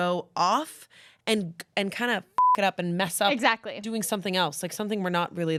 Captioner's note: beep